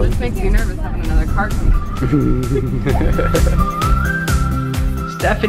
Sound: laughing

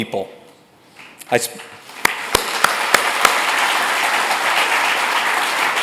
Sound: audience applauds loudly

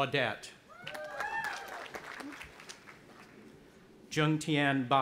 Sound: audience applauding and cheering

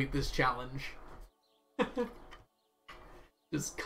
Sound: laughs

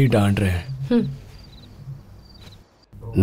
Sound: crickets clittering

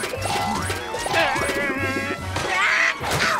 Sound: growling; grunting

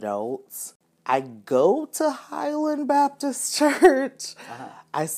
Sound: said with higher voice, as if questioning

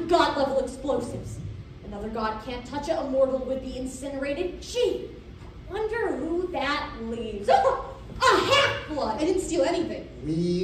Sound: laugh

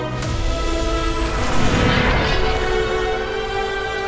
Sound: whooshing sound

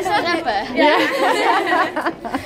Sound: laughter

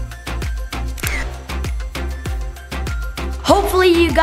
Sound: camera shutter

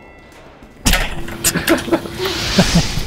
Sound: laughing

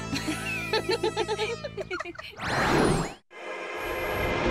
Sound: laughing

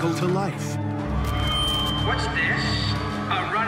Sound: high-pitched crackling

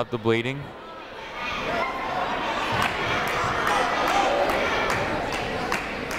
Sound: people shouting in the crowd

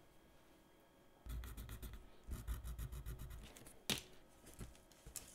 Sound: pencil scratching on pad

